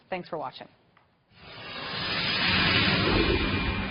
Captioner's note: whooshing